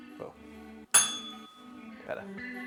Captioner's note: bell rings